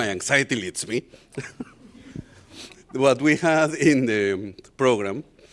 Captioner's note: laughter